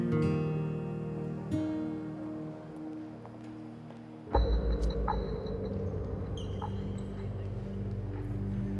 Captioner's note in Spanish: Sollozos